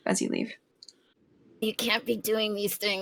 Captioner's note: gremlin voice